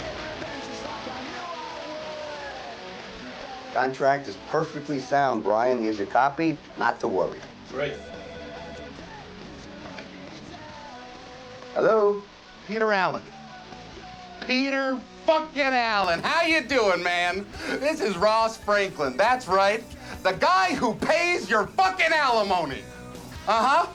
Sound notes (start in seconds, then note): 8.9 phone ringing